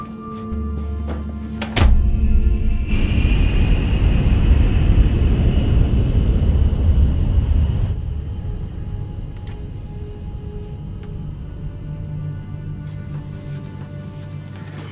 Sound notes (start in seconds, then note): 1.7 door thudding; 1.8 airplane engine roaring